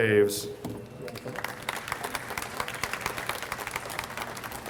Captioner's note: audience applauds